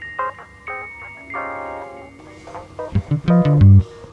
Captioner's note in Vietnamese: chuông